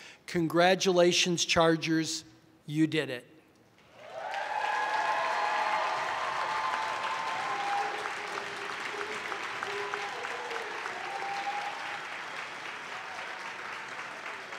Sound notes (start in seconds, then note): 3.9 audience applauding; 3.9 audience cheering